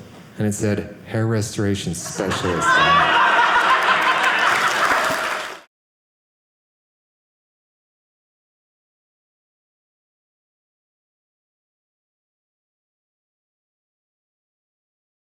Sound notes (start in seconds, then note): 2.0 audience laughing